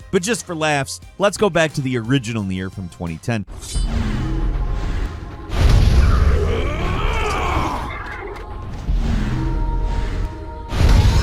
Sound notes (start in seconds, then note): 5.4 explosion booming; 6.6 character yelling